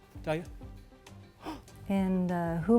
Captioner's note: Tristan gasps